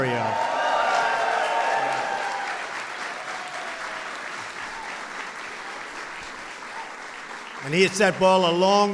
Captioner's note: applause